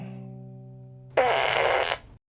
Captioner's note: fart